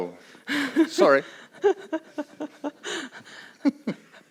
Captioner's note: laughs